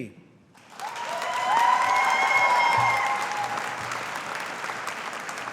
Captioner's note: audience applauding